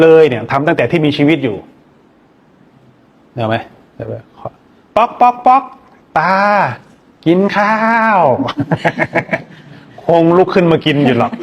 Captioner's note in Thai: เสียงหัวเราะ